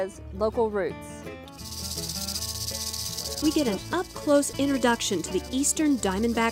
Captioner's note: snake rattle